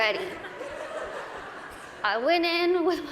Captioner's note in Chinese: 大笑